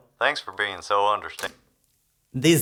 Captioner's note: click